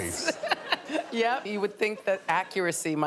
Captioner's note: laughing